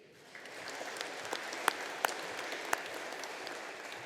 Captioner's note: audience applauding